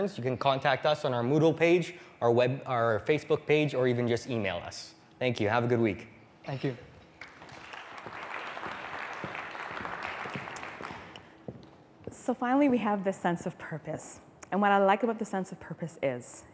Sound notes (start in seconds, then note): 7.2 applause